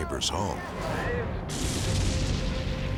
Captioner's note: jet crashing